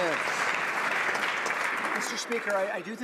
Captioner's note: some Applause